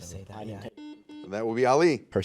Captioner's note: buzzer